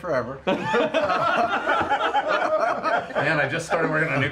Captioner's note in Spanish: risas